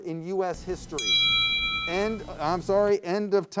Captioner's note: round bell chimes